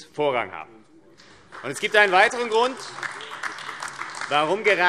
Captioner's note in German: Beifall AfD